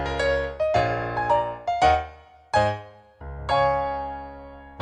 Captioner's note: none